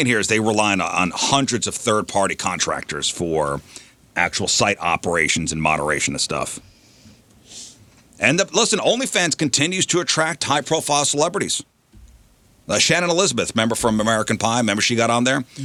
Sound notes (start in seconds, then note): none